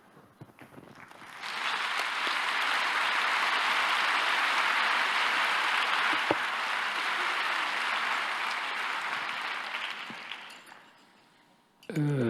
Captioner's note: applause